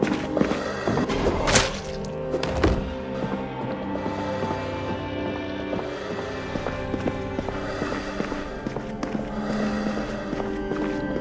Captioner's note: groaning and screaming